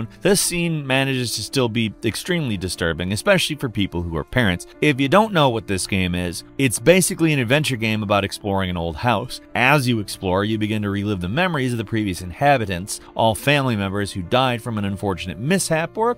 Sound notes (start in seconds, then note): none